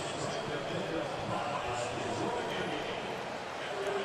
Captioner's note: pa announcement